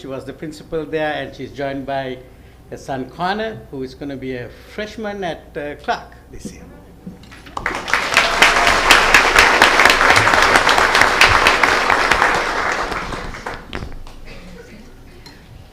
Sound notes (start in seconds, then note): 7.3 applause